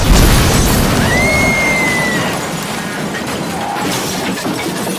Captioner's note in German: Scheppern, Schreie